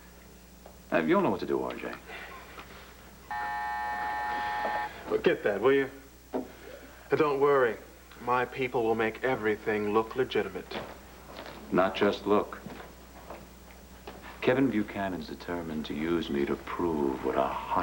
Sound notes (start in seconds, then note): 4.8 buzzer sounds